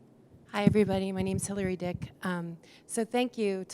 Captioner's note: voiceover